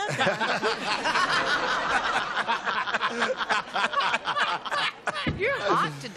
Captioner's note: laughter